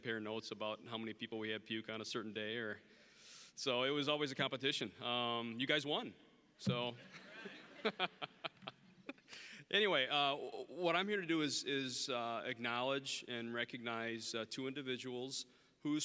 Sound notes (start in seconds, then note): 7.0 audience chuckling; 7.1 laughing